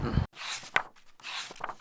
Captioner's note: pages turning